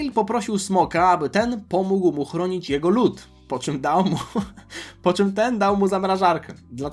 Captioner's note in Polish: śmiech